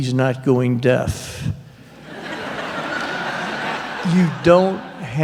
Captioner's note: laughter